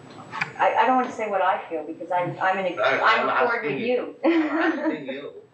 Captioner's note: laughs